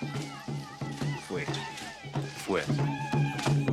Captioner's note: speaking in foreign language